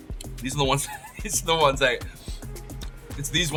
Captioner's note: chuckling